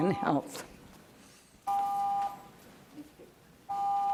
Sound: timer beeps

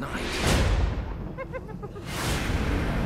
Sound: hyena laughing sound

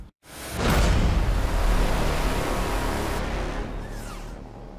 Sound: explosion sound

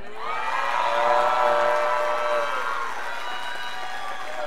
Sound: scholars applauding

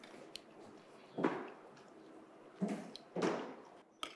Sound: footsteps thumping

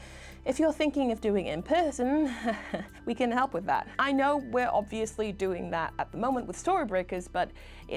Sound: nervous laugh

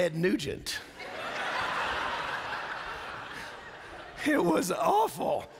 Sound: laughter

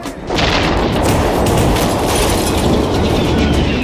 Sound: gun shots; explosion

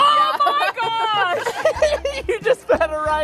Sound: laughs

